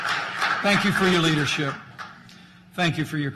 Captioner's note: applause